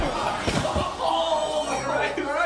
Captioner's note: student groaning